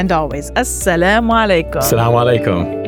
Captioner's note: speaking foreign language